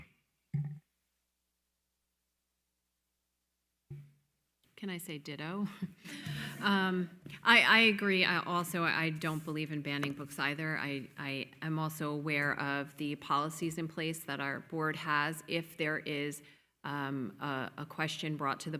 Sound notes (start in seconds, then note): 5.7 attendees laughing; 5.8 chuckles